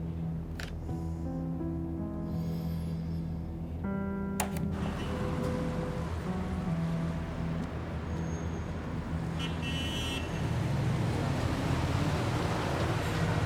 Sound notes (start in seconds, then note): 7.8 city sounds